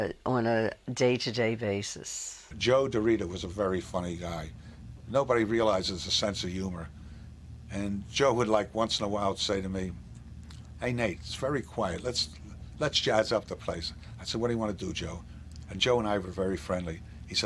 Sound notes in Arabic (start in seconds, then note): none